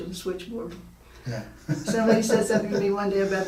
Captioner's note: laughing